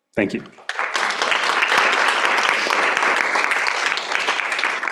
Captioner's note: applause